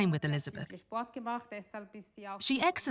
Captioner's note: speaks in foreign language